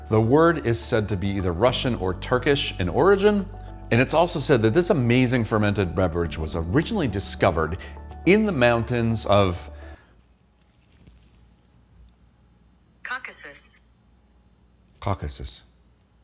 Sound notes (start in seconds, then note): 13.2 automated Voice